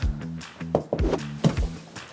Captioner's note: knock knock